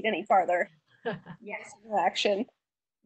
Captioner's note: laughs